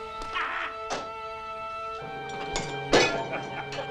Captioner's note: man yells; objects smashing; Hezekiah laughing